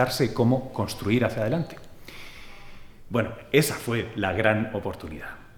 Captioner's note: none